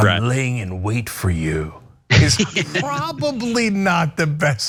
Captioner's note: laugh